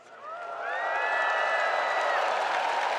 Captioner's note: spectators cheering; spectators applauding